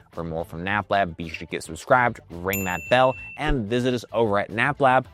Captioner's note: bell rings